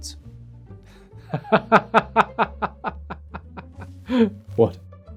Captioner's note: Loki laughing